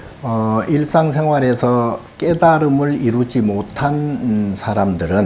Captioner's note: speaking Korean